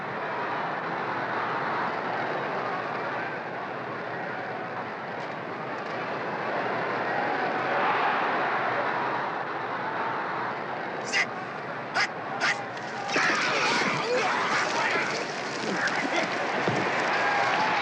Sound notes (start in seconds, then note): 6.4 crowd roaring